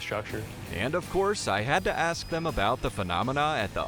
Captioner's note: voiceover